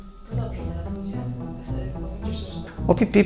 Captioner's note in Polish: kobiecy głos w tle